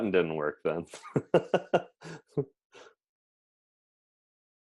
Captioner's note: laughs